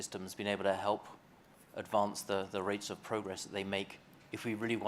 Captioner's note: none